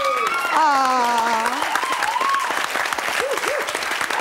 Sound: applause

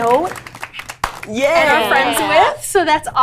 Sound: group clapping

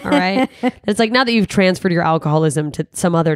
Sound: laughs

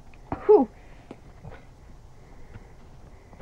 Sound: Alexie gasps

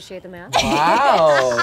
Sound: laughing

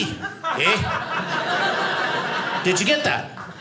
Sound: audience laughing

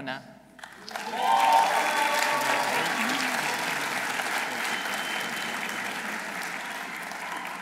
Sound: audience applauding; audience cheering

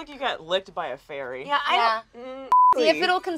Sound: groans

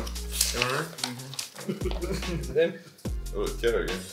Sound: laughs; people laughing

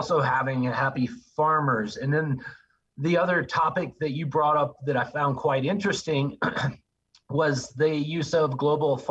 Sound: cough

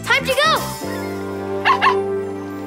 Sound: barking

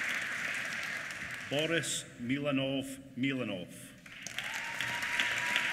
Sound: applause

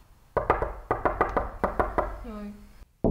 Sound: frantic door knocking sound

